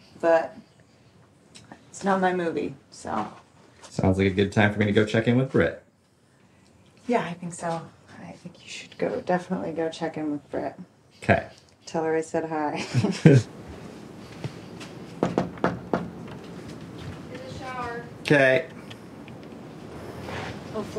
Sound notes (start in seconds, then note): 12.7 both laughing; 15.2 hand knocking on door